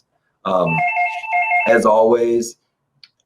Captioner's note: phone ringing